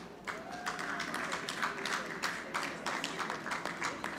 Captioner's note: audience clapping